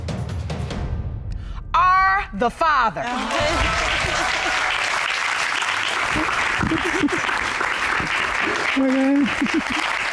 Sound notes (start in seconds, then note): 3.0 audience applauds; 3.2 chuckles, sobs